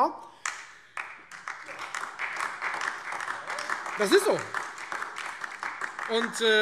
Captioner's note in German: Beifall Freie Demokraten, AfD und DIE LINKE